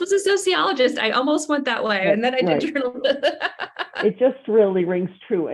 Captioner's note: laughs